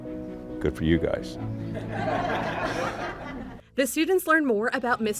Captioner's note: laughter